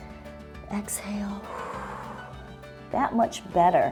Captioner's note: exhales